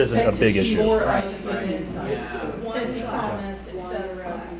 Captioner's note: chattering